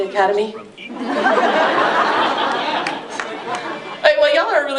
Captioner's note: laughter